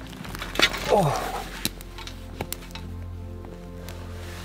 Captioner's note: metals clanging; sighing